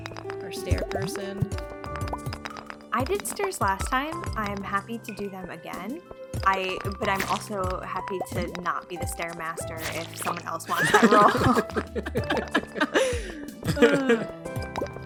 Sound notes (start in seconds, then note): 10.7 all laugh